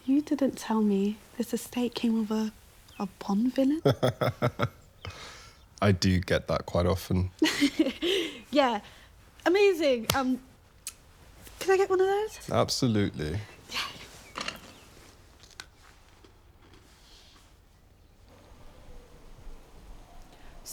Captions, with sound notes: You didn't tell me this estate came with a bomb villain. (Nikolai laughs) - I do get that quite often. (Hazel chuckles) - Yeah, amazing. Can I get one of those? - Absolutely. - Yeah.